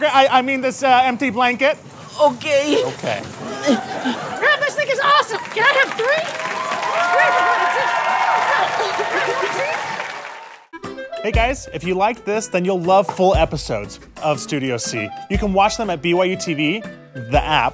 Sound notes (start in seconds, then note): 2.5 tearfully; 11.1 audience cheers and applause